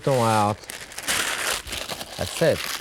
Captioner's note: paper crumples